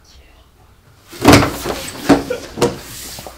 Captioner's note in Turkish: masaya vurma sesleri